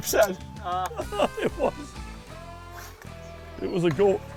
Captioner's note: laughter